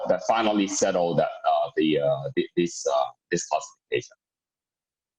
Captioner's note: murmur